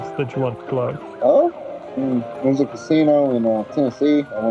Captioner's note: police sirens; police sirens getting closer